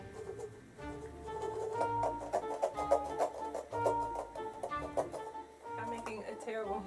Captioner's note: sawing